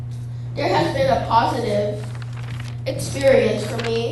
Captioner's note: paper rustling